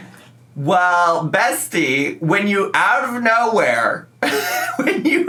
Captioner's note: laughs